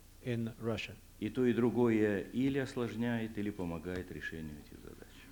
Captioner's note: non-english speech